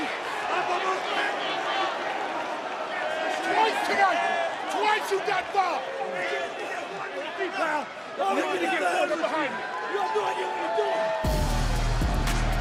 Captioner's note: yelling